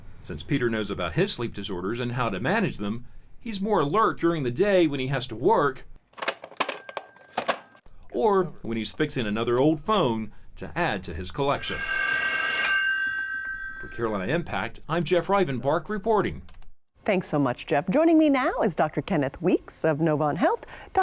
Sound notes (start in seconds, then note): 11.5 phones ring